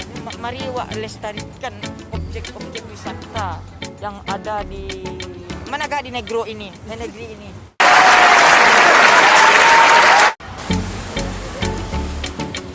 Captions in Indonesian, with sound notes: mari kita lestarikan objek objek wisata yang ada di negri ini (tepuk tangan)